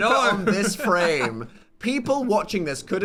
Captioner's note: chuckling